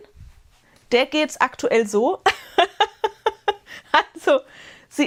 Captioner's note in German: Gelächter